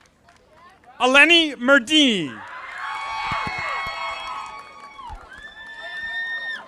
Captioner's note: audience applauding; audience applauding